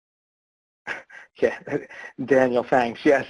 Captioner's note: laughs